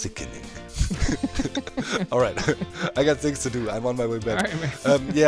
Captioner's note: both crack up